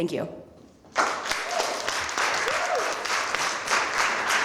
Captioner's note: applause